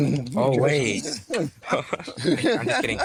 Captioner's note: laughing